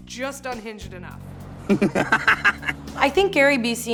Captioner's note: laughing